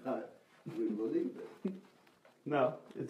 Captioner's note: laughs